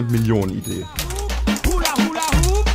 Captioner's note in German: Klingeln